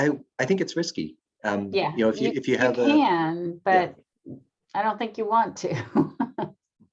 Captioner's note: laughs